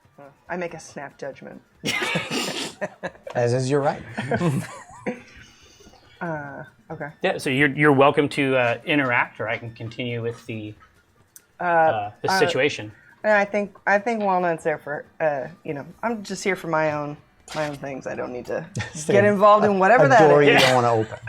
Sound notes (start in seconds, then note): 1.8 laughter